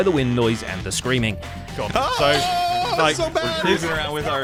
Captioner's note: screaming; incomprehensible screaming